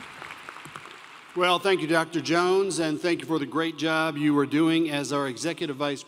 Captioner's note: applause